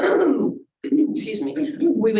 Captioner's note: throat clearing